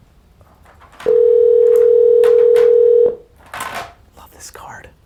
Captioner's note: phone rings